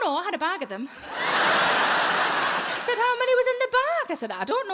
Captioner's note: audience laughs